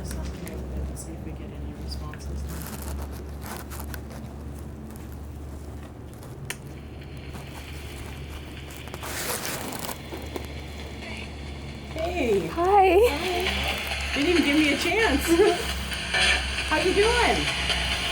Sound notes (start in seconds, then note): 6.2 static crackling; 6.2 switch clicks